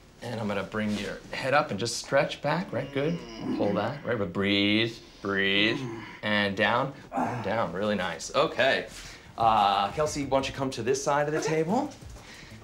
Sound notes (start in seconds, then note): 2.5 groans